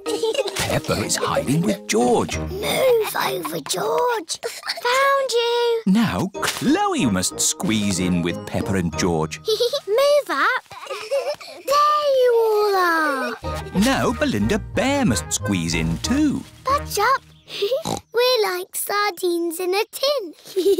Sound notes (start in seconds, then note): 3.0 whispers; 10.6 peppa giggles